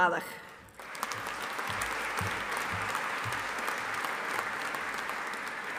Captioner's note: audience applauding